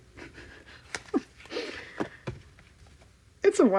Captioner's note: laughs